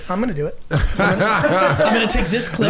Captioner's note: Mark laughing